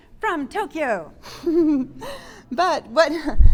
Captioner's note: giggling